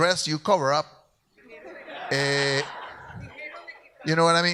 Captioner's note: audience laughs